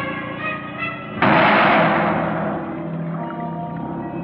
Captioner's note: banging; ominous music